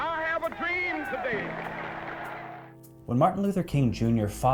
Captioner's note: audience clapping